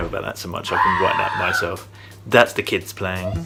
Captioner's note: child yelling